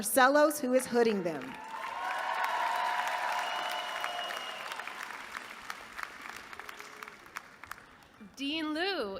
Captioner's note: applause